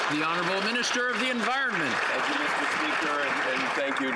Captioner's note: some Applause